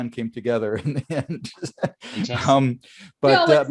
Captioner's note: laughs